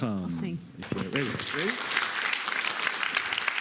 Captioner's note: applause